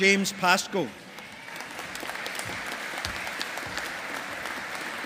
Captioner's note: audience applauding